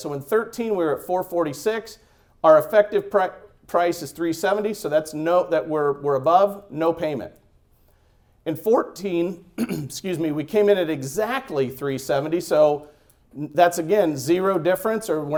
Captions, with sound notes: So in '13 we were at 4.46, our effective price is 3.70, so that's, no, that we're above, no payment. In '14, (clearing throat) excuse me, we came in at exactly 3.70 so that's again zero difference,